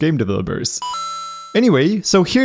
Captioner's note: twinkle